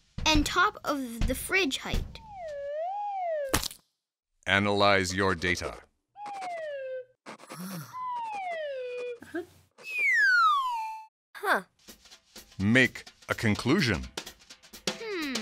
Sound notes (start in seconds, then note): 2.2 slide whistle and splat; 6.2 slide whistle and pencil writing; 9.8 even higher slide whistle